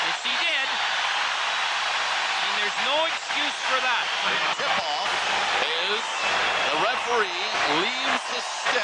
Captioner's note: crowd cheers